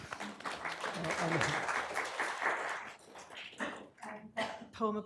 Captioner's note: applause